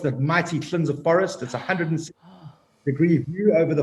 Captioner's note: hosts gasping